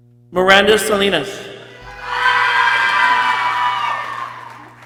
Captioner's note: people cheering